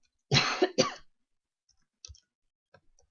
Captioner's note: coughs